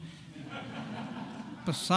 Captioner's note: audience laughing